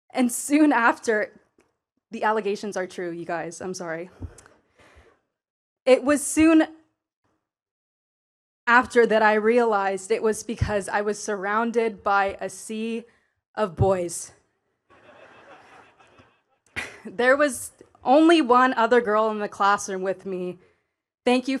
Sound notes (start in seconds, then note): 14.9 attendees laughing